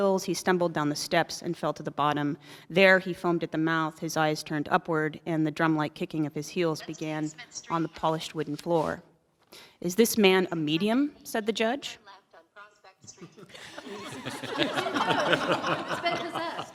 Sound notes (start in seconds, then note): 13.1 laughter